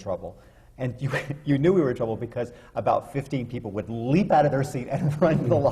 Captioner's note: laughs